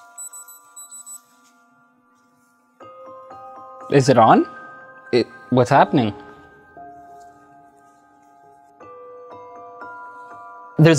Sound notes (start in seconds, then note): 0.0 device beeps; 8.8 eerie music